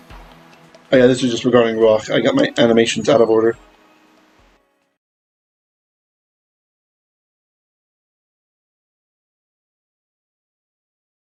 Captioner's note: Hebrew